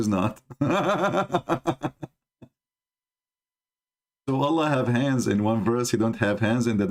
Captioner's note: Ketawa